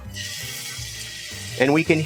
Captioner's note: chicken sizzling